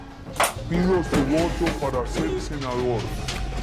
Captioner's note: deformed uribe´s voice